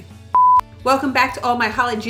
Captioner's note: beep